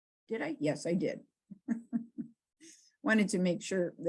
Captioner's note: laughs